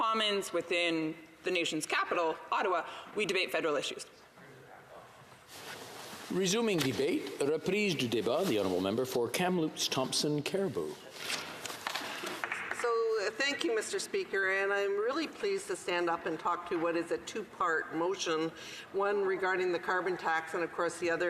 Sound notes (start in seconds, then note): 10.6 speaking French